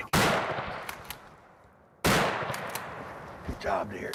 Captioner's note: gun firing